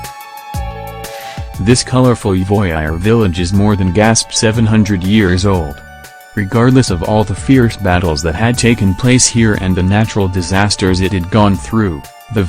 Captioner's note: gasp